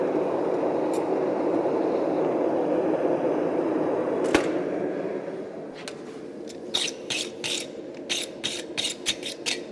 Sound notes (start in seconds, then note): 0.0 furnace blasting; 4.3 Furnace lid closing; 6.7 metal scraping against the brush